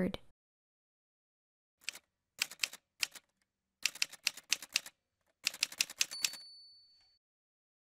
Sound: typewriter Sounds

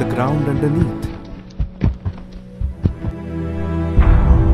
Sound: sound of Horses' hoofs on wood

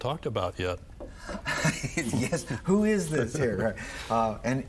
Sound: laughing

